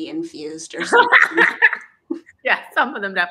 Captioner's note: laughing